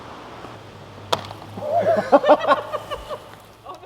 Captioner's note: laughing